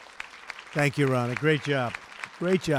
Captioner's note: applause